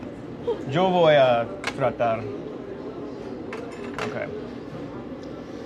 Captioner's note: speaking in foreign language